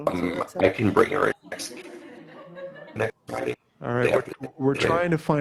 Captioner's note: student's mic unmuted